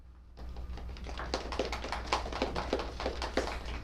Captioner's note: applause